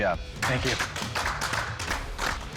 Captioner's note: applause